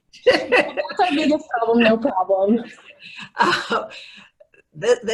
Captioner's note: laughing